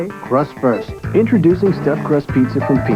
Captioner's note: voiceover